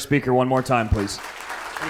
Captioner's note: audience applauding